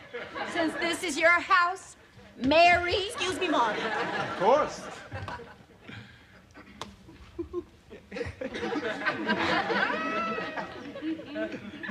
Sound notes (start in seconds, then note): 7.0 chuckles